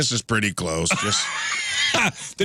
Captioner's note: laughing